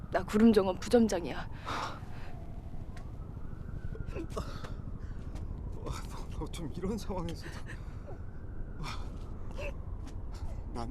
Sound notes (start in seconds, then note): 3.4 Yongnam crying